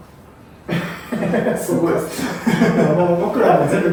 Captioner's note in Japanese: 爆笑